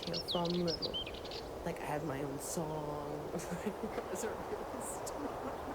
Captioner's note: laughing